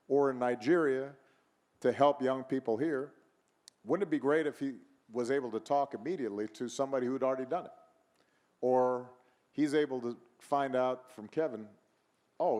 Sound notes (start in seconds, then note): none